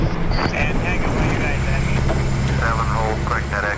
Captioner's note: muffled speaking from radio